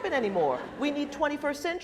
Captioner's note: laughing